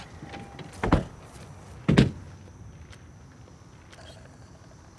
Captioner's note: car doors slamming